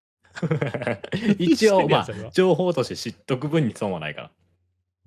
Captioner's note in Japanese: 笑い